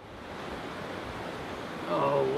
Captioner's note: water rushing